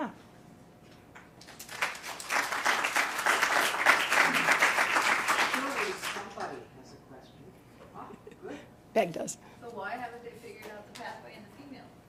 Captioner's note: applause